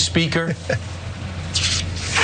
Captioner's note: laugh